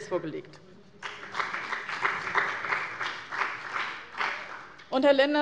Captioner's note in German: Beifall bei dem BÜNDNIS 90/DIE GRÜNEN und der CDU